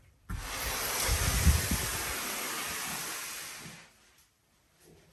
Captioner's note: sliding door scraping